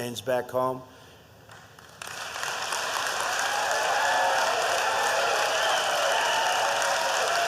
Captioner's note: applause